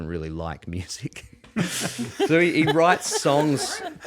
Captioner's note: all laughing